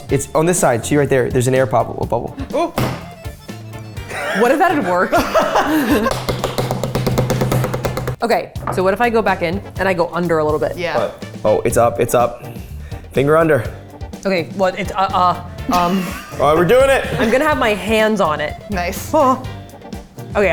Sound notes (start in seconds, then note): 4.0 all laughing; 5.9 hand smacking container